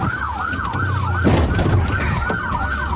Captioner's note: bangs